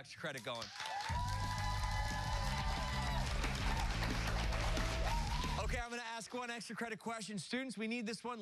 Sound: cheers and applause

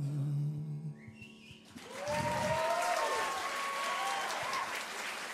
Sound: audience cheering

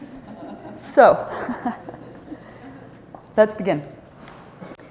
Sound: laughter

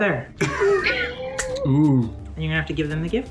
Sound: laughs

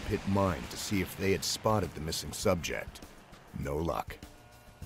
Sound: voiceover

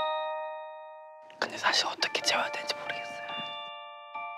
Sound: whisper

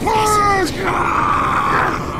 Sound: Sniper cries in pain

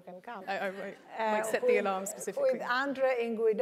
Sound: laugh

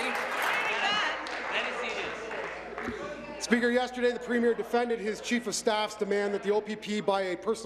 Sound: applause

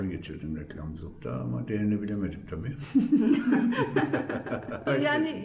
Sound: laughter

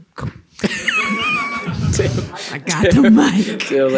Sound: laughter

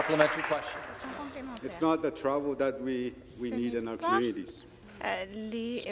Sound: some Applause

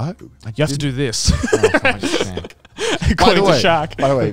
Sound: laughing

